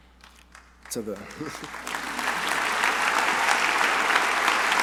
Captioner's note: crowd applauding